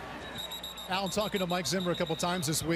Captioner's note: whistle